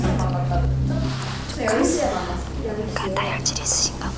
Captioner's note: whisper whisper